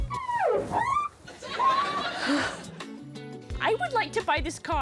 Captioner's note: hands squeak on car bonnet